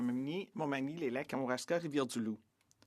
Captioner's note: speaking French